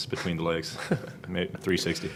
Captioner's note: laughing